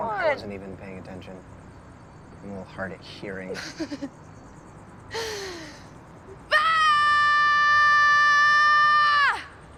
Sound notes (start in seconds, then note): 5.1 inhales; 6.5 loud, long yell